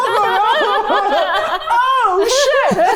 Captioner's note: everyone laughs